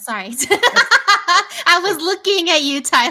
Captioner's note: laughing